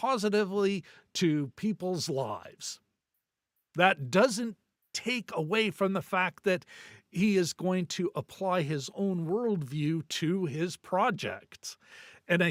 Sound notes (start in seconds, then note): none